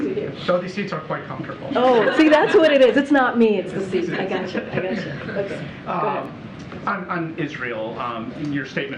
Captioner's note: laughter